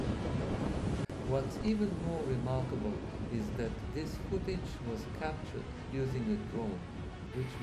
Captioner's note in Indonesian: drone